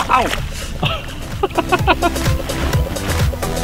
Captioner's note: laughing